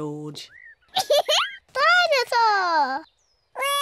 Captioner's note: giggles